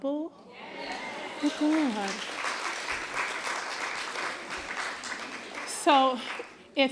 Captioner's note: agreement, applause